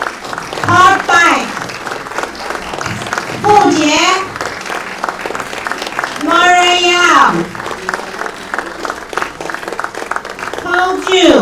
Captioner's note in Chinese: 掌声